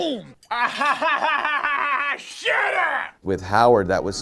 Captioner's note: laughing